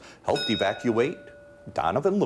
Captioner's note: bell dinging